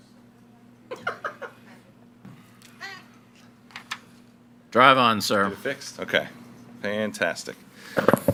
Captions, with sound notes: (member laughs) - Drive on, sir. - Get it fixed? Okay. Fantastic.